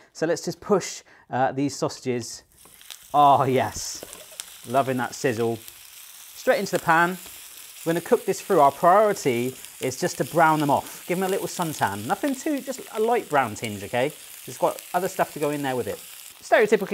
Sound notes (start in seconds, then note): 3.0 pan sizzles